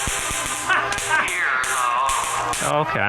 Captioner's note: electricity clicking